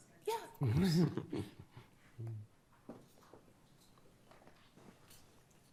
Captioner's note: justices chuckling